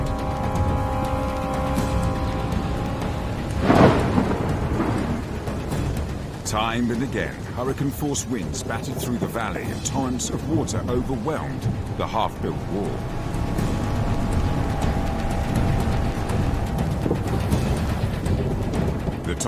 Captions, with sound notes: Time and again, hurricane force winds battered through the valley, and tons of water overwhelmed the half-built wall. (intense music) (water rushing) The Tonga people believe the construction angered the great Zambezi river god, Nyaminyami,